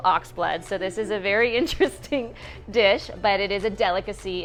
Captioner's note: laughs